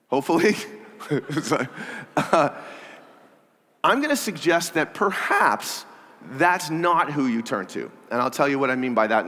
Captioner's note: laughter